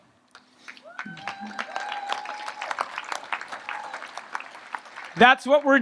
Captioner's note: audience applauds and cheers